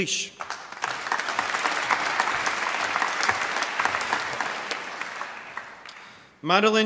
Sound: applause

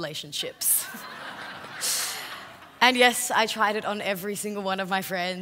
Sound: laugh

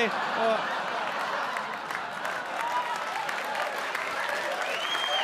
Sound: audience cheer and applaud

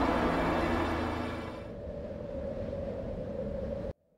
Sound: howling wind

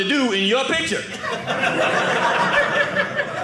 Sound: audience laughing

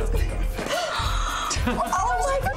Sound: Gabrielle gasps

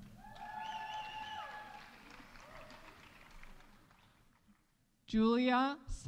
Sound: audience cheering; audience applauding

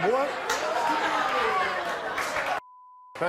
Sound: laughing

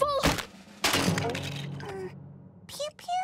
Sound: crash

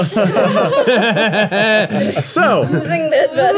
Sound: group laughing

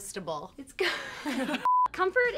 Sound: laughing

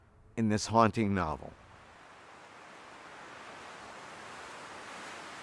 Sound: leaves rustling

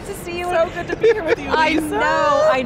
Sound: laughs

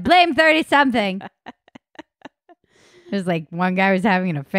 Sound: laughing

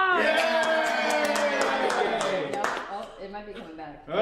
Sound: cheering and clapping

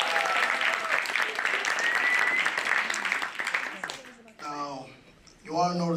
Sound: applause

